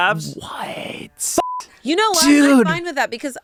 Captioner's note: beep